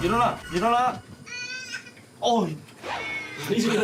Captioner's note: crying sound of baby